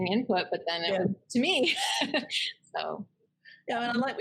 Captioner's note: laughs